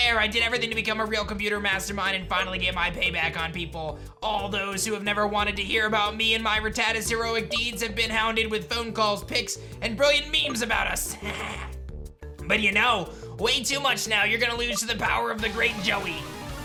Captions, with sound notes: I did everything to become a real computer mastermind and finally get my payback on people. All those who have never wanted to heard about me and my Rattata's heroic deeds have been hounded with phone calls, pics, and brilliant memes about us. (evil laugh) But you know way too much now, you're going to lose to the power of the great Joey.